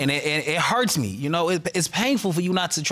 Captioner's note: stammers